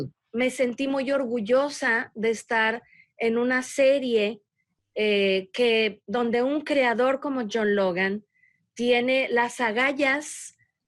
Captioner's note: speaking spanish